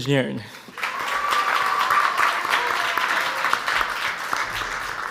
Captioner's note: audience applauds